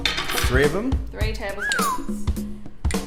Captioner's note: whistles